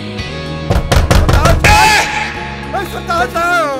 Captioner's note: Door knocking